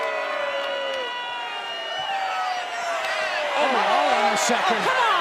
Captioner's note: crowd cheering